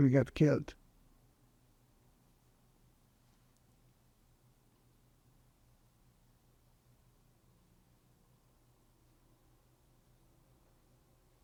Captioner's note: pauses 11 seconds